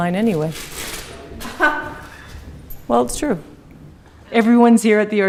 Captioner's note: laughs